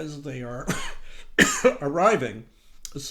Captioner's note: coughing